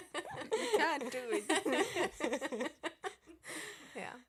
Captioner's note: laughter